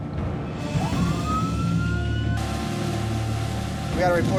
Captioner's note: siren blaring